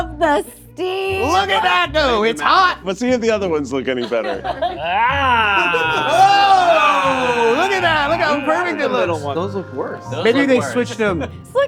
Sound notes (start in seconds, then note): 4.4 laughing; 5.3 all laughing; 8.6 playful music continues